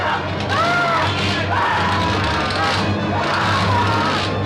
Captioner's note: Krenner screaming